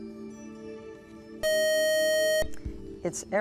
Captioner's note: buzzer